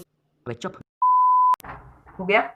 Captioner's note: beep